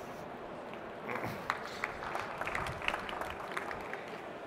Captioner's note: applause